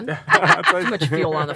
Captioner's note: laughing